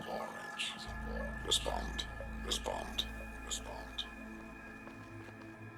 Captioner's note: echoing